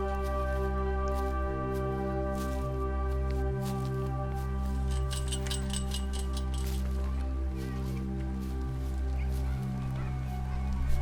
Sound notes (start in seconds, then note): 4.8 fence rattling; 7.4 soft suspenseful music